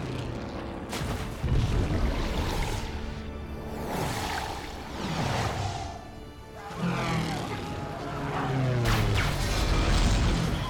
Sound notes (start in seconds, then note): 6.6 men screaming